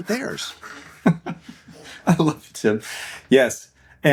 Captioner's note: laughs